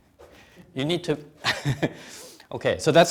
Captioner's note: chuckles